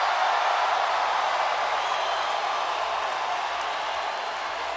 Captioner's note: crowd cheering